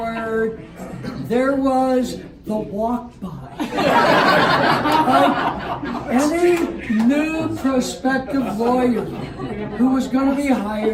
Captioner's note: laughter